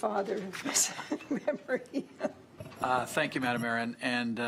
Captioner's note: laughs